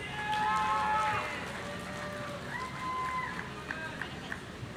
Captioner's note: people shouting